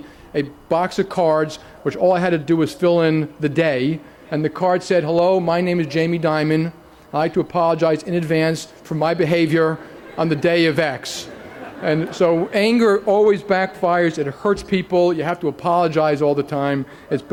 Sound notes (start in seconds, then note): 9.7 laughter